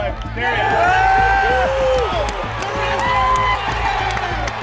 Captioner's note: cheering and applause